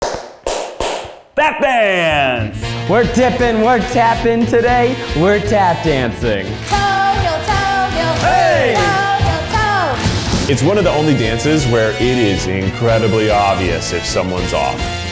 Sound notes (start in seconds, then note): 0.0 shoes tapping